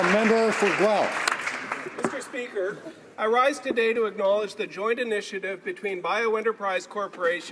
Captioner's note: applause